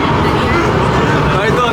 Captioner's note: laughing